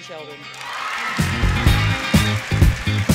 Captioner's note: applause, cheering